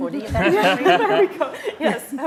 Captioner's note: laughing